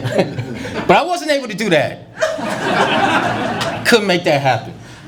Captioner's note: laughter